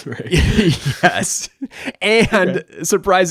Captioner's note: laughs